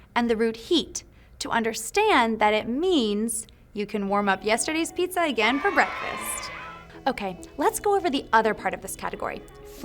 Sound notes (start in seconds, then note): 5.4 audience cheering